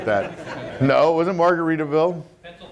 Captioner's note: crowd laughs